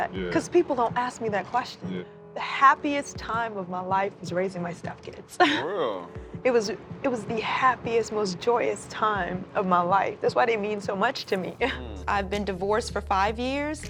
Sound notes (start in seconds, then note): 6.9 voice breaking